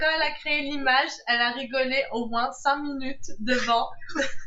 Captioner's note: laughs